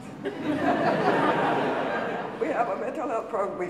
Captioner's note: audience laughing